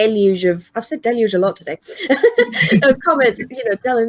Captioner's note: laughs